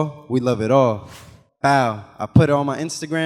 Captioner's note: animation whooshes